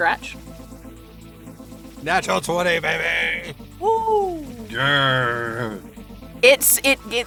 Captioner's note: cheers